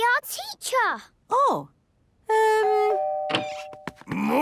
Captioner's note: doorbell ringing